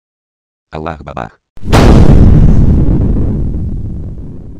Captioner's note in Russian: Взрыв